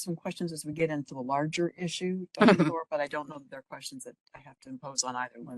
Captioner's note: laugh